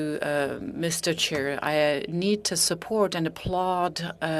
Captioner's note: speaking in French